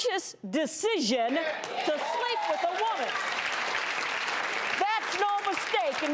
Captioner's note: audience applauding